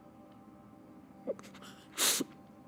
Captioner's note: crying